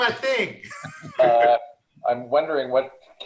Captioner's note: laughing